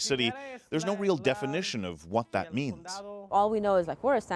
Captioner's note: speaking spanish